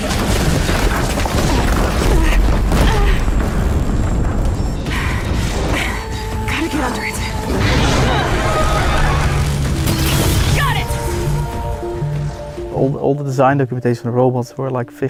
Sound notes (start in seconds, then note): 0.0 انفجار; 7.6 صدای جیغ; 11.9 موسیقی آرام